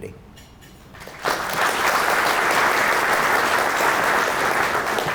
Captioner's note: audience applauding